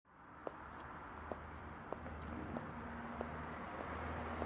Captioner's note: traffic whooshing